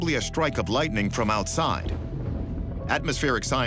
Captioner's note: thunder rumbles